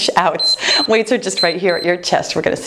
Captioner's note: timer beeps